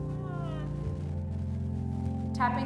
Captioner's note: woman moaning